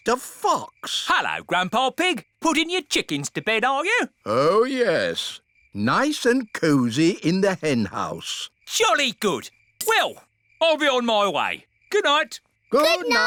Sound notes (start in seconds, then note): none